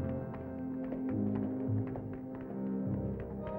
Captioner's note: clapping